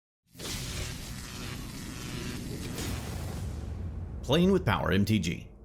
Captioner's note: electricity crackles